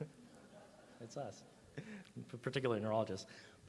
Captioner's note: audience laughs